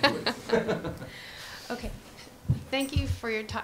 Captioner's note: laugh